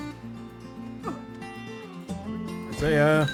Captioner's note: grunting in teh distance